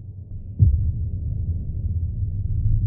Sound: single heartbeat

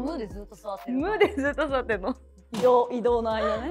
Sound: laughs

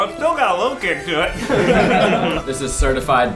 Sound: laughing

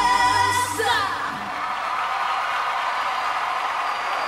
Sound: applause

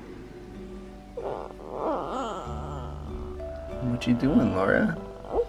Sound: groans

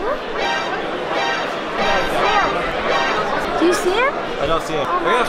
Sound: series of Metal Gear Solid ! sound effects

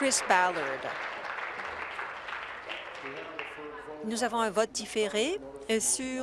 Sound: applause

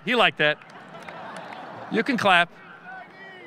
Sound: audience laughing

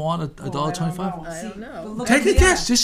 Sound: voiceover

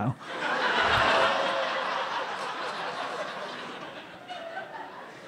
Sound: laughter

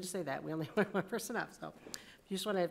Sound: chuckle

